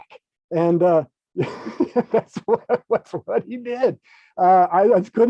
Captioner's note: laughs